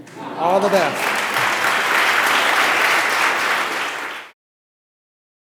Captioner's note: applause